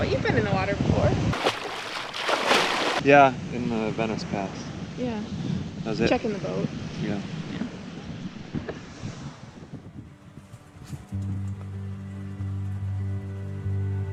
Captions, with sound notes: - But you've been in the water before. (splashing water) - Yeah, in the Venice Pass. - Yeah - That was it. - Checking the boat. - Yeah - Yeah (soft music)